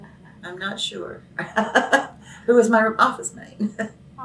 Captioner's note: laughs